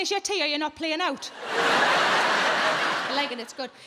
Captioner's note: audience laughing